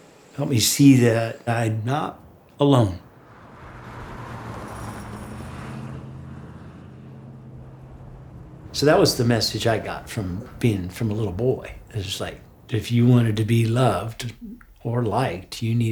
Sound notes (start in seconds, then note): 3.6 car whooshing